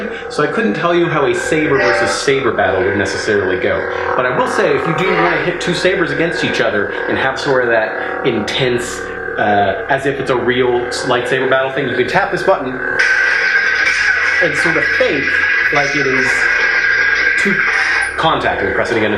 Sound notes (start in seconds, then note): 13.2 electronic buzzing